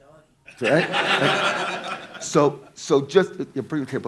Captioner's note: audience laughing